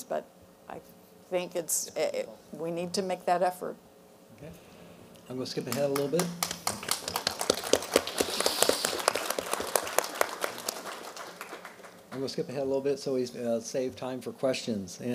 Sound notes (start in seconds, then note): 5.6 applause